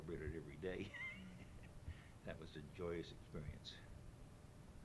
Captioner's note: chuckles